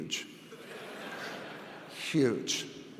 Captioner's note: audience laughs